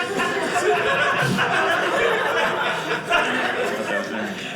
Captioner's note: audience laughing